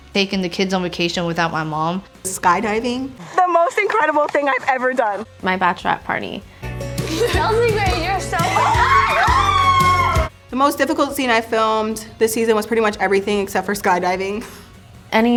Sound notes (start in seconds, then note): 8.8 screaming and laughing